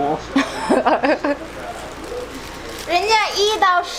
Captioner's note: grandma speaking Chinese; laughing; speaking Chinese